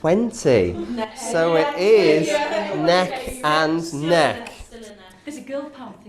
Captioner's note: others chattering